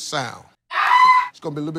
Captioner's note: screaming